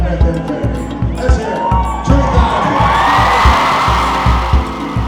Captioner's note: cheers and applause